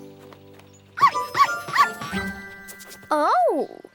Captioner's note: dog barks